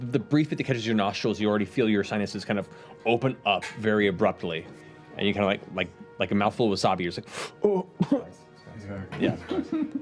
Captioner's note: coughing